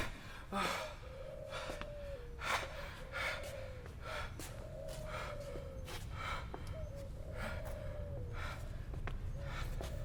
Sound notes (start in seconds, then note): 0.0 heavy breathing